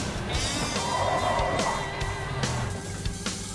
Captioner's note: tires screech